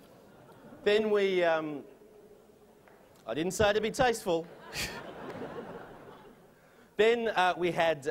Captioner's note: chuckles from audience; laughter